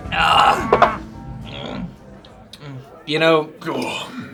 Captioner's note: grunts; groans